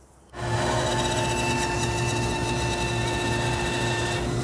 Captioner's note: machinery whirs